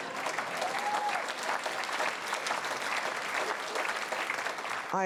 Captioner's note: audience applause